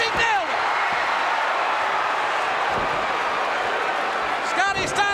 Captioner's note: audience cheering